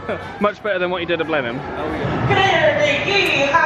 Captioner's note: mutters